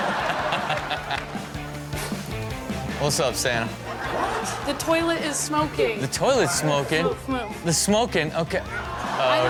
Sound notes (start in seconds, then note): 0.0 Rob and audience laugh; 1.8 upbeat music; 3.7 audience laughing